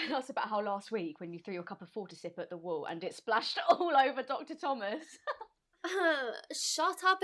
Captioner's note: laugh